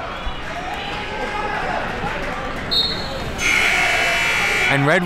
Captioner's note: crowd talking; buzzer rings